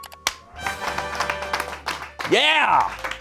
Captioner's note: triumphant music; audience applauding